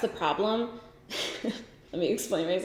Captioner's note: giggles